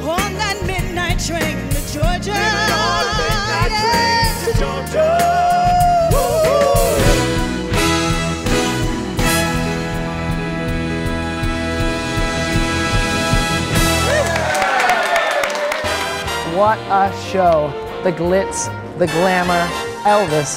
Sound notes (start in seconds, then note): 5.9 brass instrumental music; 13.6 crowd applauds